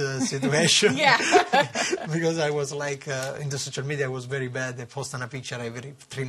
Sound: laughter

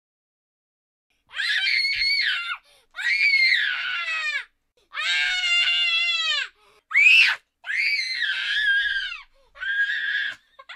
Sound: sound of chilling screams

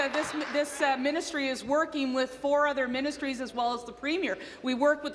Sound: some Applause

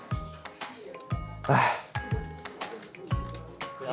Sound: sigh

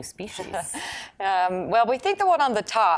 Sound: laughing

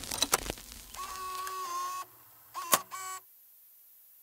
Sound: static crackling; tape whirring

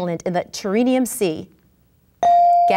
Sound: ding

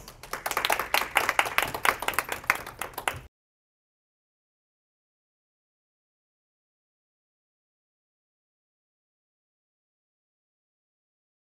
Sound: applause

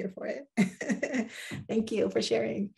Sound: chuckles

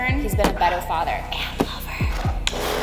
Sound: whispers

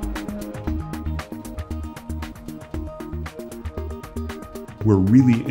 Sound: air hisses faintly

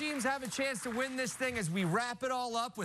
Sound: cheers and applause

